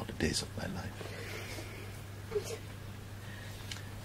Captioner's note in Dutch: snikken op de achtergrond